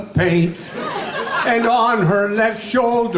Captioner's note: audience laughing